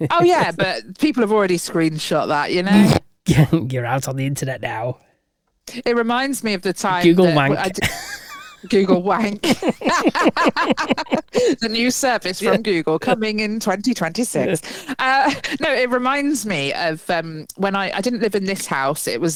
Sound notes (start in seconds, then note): 7.4 laughing